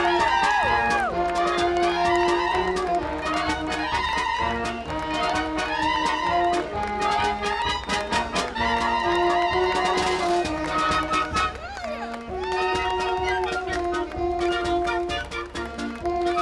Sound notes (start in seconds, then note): 1.8 applause; 1.8 lively orchestral music